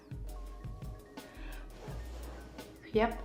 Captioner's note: blows on lashes